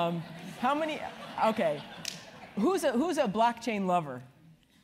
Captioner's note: laugh